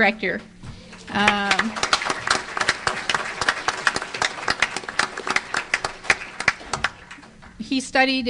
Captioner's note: applause